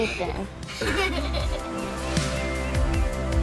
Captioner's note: kids laughing